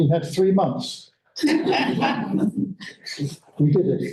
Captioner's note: laughter